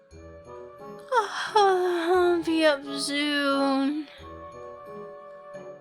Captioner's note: yawn